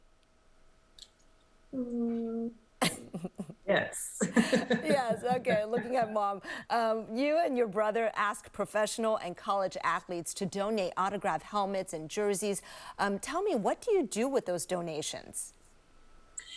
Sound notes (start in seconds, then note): 4.2 laughter